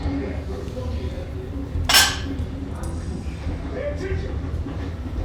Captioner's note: people speaking faintly in background; weight clanking